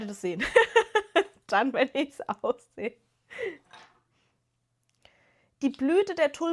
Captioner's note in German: gelächter